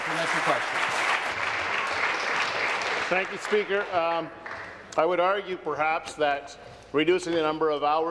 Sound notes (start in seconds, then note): 1.6 applause